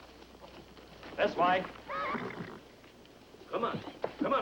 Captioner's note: whinnying